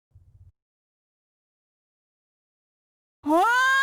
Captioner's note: nervous silence